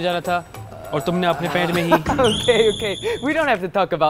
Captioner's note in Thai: หัวเราะ